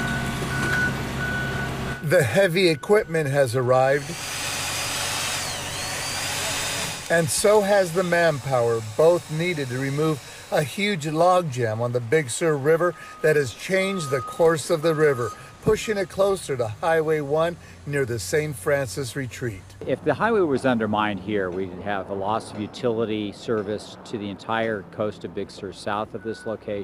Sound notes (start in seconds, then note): 7.4 nat pop heavy equipment; 12.9 nat pop men working